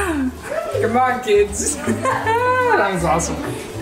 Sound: laughs

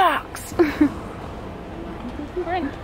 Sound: chuckles at herself

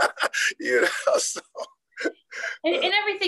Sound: laughing

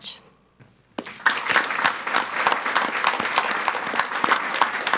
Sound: audience applauds

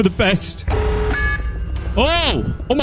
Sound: alarm sound

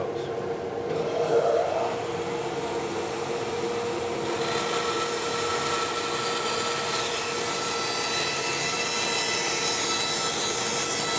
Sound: bandsaw whirring

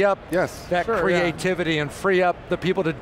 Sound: group chatter

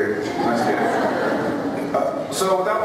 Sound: laughter

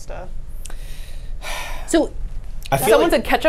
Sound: sighs

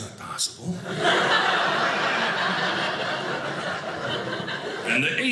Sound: audience laughing

